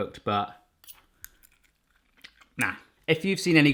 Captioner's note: crunches